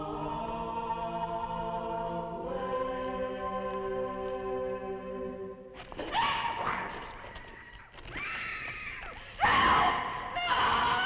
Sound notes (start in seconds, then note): 6.4 Nan screaming; 9.4 Nan screaming